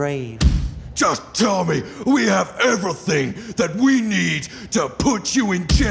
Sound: fist slamming on table

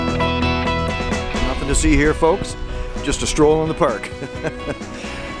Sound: chuckle

